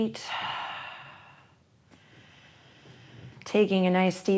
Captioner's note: inhales